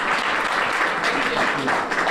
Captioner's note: applause